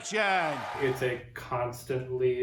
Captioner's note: cheering